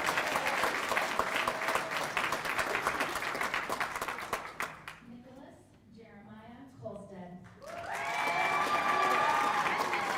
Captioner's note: cheers and applause